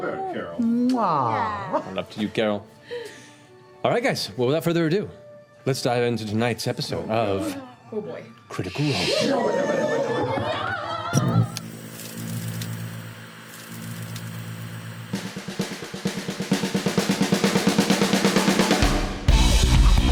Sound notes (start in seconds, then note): 10.7 click, TV static; 15.1 groovy theme